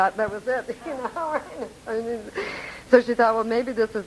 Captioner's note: laughing